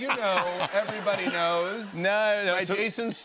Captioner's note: laughter